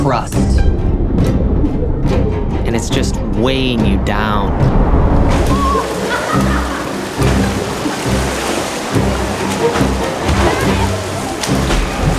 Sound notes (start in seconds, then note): 5.5 water splashing; 5.5 people laughing; 9.0 suspenseful music